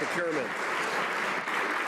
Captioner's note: some Applause